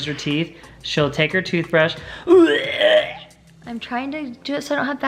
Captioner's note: gagging